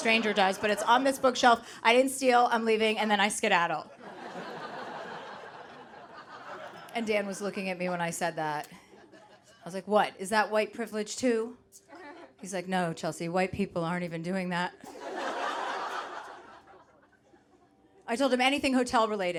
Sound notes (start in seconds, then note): 3.9 audience laughing; 14.8 audience laughing